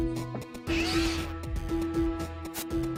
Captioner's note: whirring